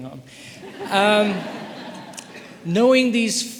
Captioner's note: audience laughing